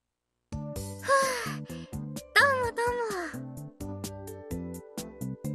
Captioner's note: sigh